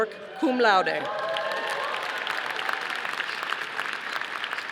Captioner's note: audience applauding